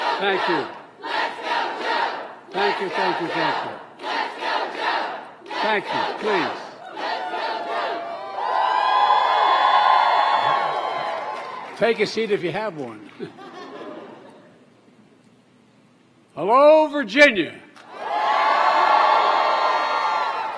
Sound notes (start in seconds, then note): 14.2 applause